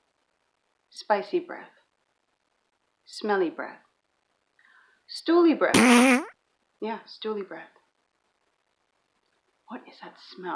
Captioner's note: fart sound effect